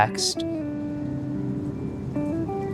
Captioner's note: wind gushing